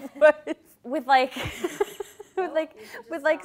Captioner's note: laughing